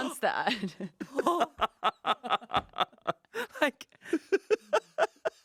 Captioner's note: laughing